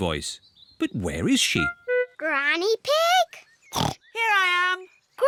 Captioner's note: snorts